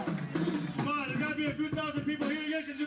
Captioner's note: cheering and applauding